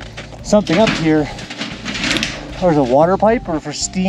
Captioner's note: metals clanging